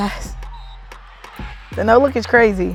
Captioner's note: whistle blowing